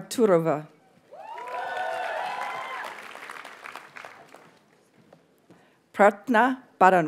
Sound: audience cheers and applauds

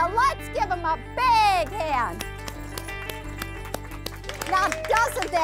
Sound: applause

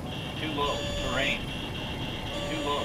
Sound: automated Voice

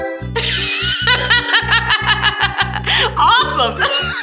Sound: laughter

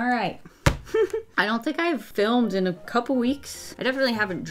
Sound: chuckles

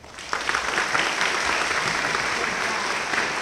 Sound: applause

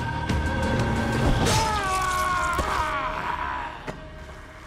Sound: yells

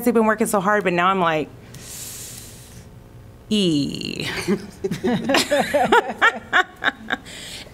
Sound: laughter

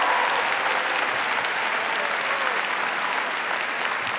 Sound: applause

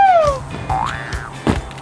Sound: boing

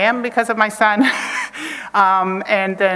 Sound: chuckles

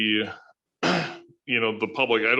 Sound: clears throat

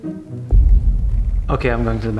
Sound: distant object rumbles

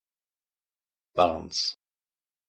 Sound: fast Pronunciation

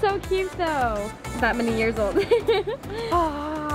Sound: laughs

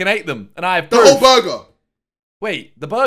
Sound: all laughing

